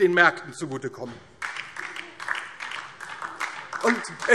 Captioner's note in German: Beifall DIE LINKE